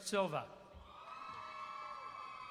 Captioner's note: applause